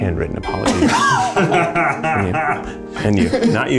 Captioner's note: laughs